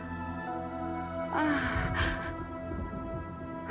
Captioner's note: mengerang